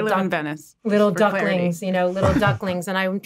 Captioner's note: chuckles